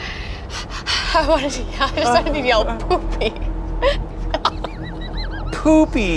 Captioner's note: laughs